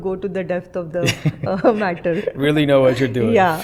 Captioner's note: laughter